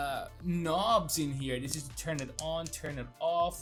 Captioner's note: switch clicking